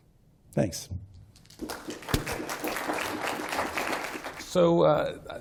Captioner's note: applause